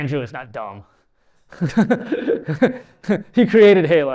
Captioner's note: laughs